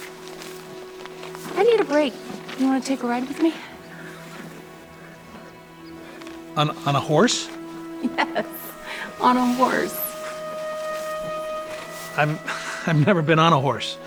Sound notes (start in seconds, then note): 0.0 paper rustling; 7.1 laughs